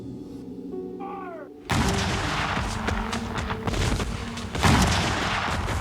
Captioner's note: cannons blasting